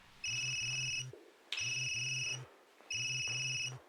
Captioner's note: phone ringing